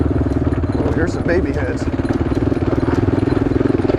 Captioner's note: moans